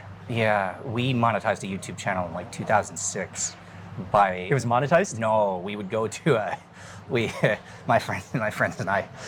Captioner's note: laughing